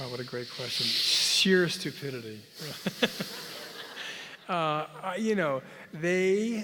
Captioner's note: laugh